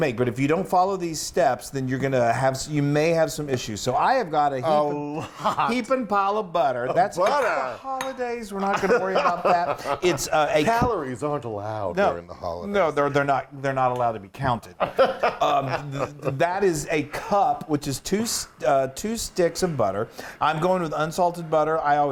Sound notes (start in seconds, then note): 14.8 laugh